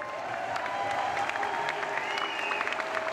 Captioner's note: applause